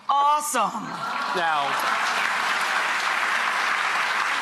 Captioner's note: applause